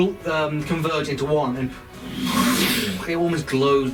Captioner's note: fwooshing noise